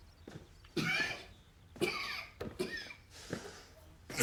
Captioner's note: Eduardo coughs